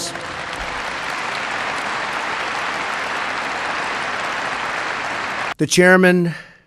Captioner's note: applause